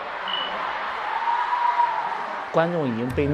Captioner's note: cheers erupting everywhere